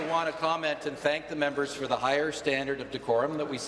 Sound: applause

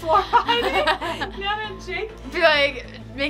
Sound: laughs

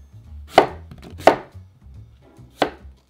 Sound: knife cutting

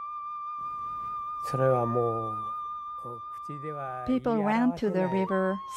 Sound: japanese language

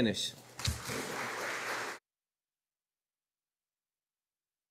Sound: audience applauding

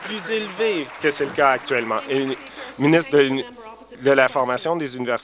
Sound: applause

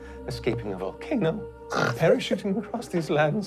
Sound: snorting

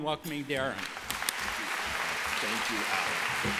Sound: applause

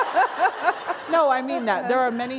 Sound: laughter

